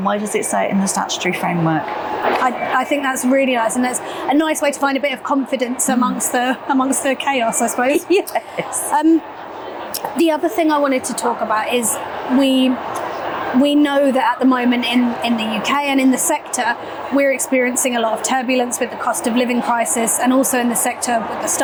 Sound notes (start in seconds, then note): 9.0 laughing